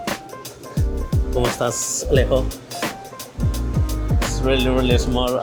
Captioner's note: speaks Spanish